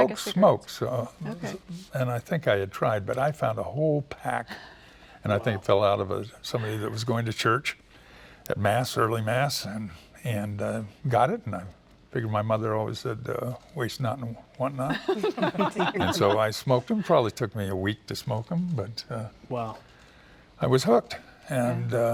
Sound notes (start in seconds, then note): 14.8 laughter